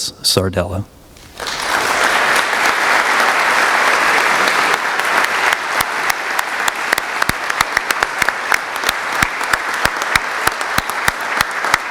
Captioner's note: applause